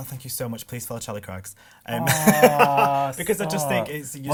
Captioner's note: laughs